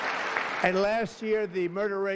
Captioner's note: applause